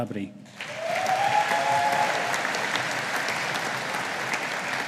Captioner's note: audience applauding